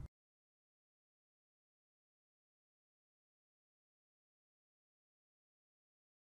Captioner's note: no sound